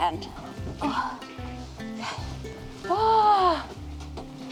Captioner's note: sighs